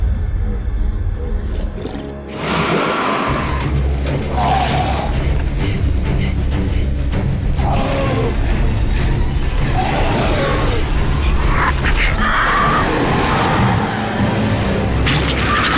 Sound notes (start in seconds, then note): 0.2 heavy breathing; 4.1 dramatic music; 9.0 panting; 12.1 screaming; 15.6 squishing